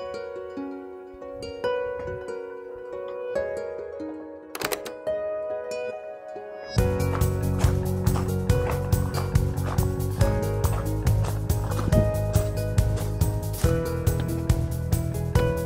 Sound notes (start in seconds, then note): 0.1 quiet music; 6.6 gravel crunches